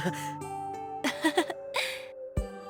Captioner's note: laugh